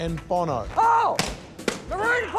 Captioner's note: balloon pops